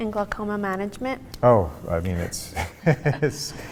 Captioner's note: laughs